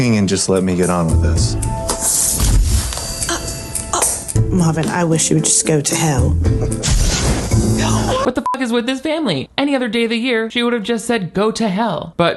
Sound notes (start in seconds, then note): 2.2 energy whooshes; 7.0 energy whooshes; 8.4 beep